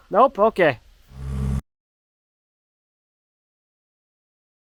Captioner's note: engine whirring